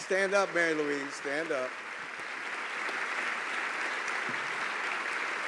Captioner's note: applause